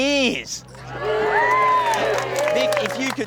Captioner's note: all cheer